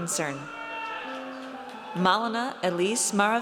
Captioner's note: audience cheers